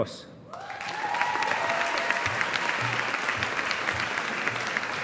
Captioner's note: audience applauding